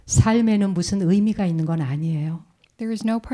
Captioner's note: speaking in Korean